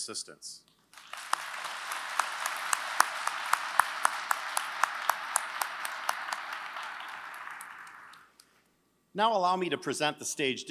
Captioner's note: applause